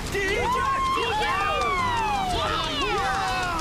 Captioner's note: Bass campers Cheering